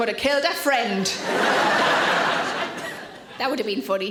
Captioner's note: audience laughing